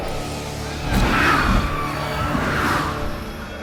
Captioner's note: hissing; screeching